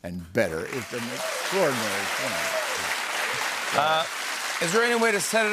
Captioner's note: cheers and applause